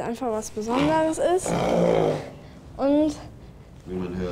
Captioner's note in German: Lautes Schnauben